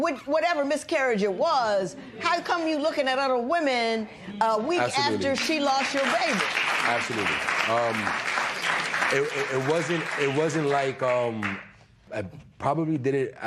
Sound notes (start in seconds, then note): 7.7 applause